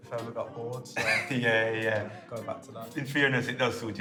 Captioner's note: laughs